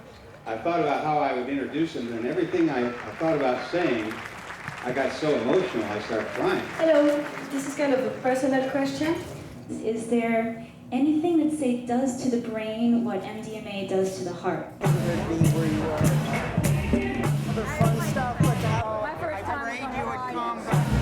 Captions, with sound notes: I thought about how I would introduce them, and everything I thought about saying, (audience applauds) I got so emotional, I just started crying. - Hello, this is going to be a personal question. Is there anything that, say, does to the brain what MDMA does to the heart? - Can you direct me where you are? - I prayed you would come.